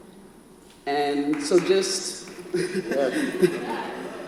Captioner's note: audience member applauds